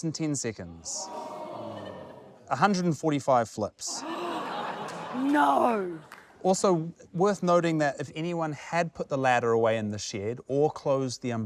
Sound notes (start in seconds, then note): 0.9 audience gasps; 4.6 gasps